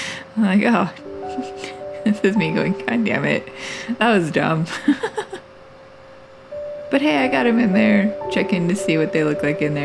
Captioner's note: laugh; laugh